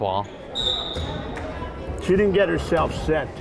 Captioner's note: whistle blowing